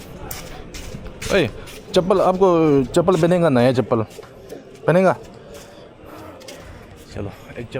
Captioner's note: walking